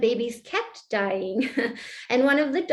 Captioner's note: laughter